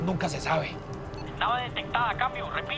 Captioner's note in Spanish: Voz en la radio